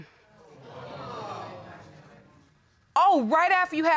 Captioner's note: audience exclaiming